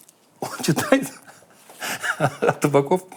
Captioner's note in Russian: смеясь